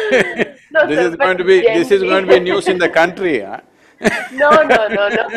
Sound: both laugh; laughs

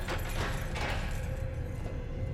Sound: lock clicks

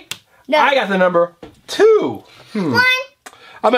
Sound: voiceover

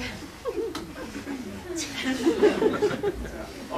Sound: laughter

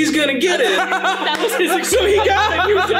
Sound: laughing loudly

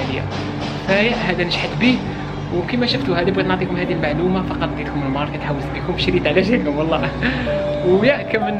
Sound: giggles

